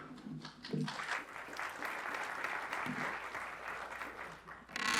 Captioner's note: applause